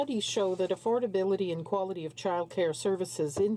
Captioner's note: speaking French